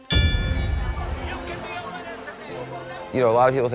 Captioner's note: bell ringing